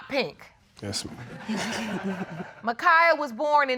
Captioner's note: audience laughs